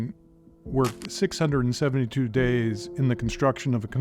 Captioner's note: static fizzes